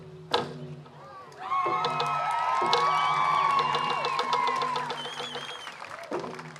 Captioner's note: cheering, applause